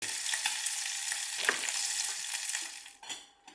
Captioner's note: sizzling sound